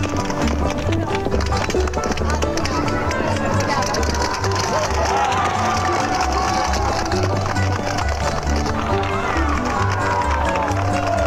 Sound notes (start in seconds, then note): 4.5 gentle upbeat music; 7.0 crowd cheering